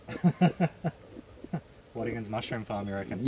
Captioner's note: laughing